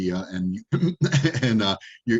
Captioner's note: laughing